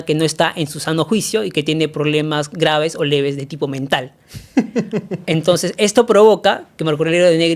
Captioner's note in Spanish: risas